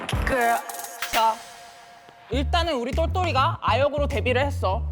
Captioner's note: sound effect of going back to the graph